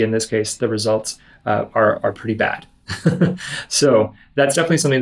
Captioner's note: laughs